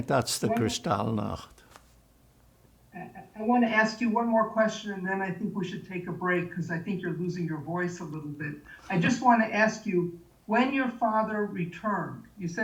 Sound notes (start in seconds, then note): 8.9 laughing